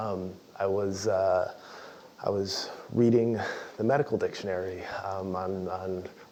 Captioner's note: laugh